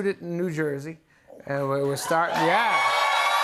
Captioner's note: cheers and applause